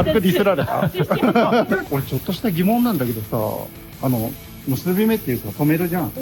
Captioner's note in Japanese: 笑い